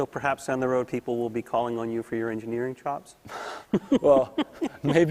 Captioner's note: laughter